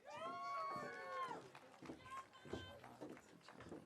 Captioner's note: audience cheering